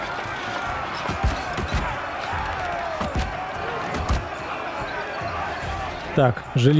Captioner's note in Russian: крик